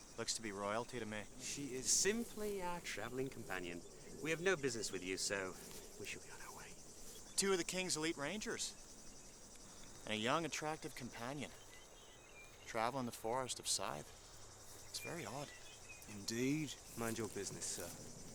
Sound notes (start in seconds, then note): none